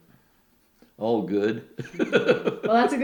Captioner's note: laughter